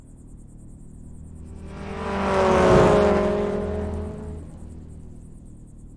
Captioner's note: car engine rumbling